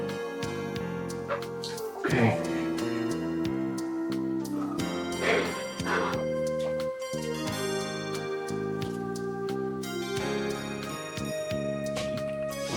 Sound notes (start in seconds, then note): 0.2 gentle music; 3.6 gentle music; 5.5 Margaret crying; 7.6 gentle music